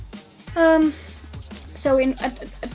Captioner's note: sigh; stutters